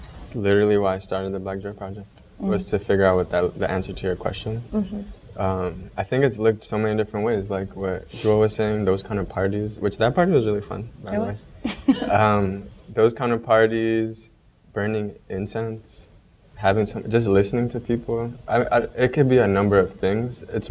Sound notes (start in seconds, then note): 12.2 murmuring